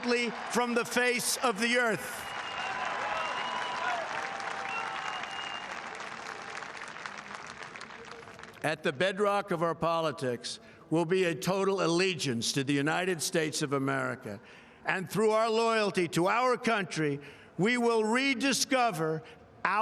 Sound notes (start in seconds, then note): 6.4 cheering; 6.8 applause